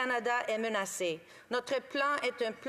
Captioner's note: speaking French